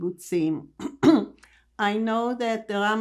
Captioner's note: clears throat